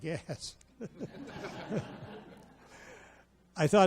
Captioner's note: audience laughs